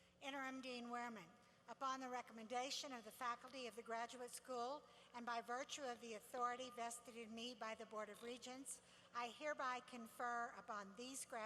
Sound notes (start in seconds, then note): none